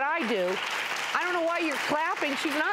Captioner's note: audience claps